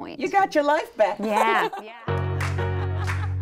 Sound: group laughing; upbeat music

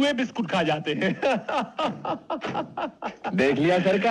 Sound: laughing

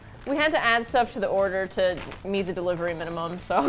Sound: laughs

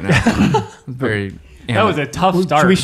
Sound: laughing

